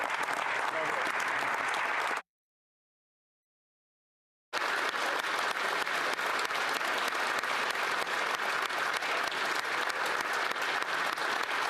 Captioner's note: applause